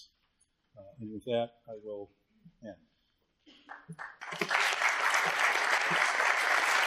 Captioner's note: applause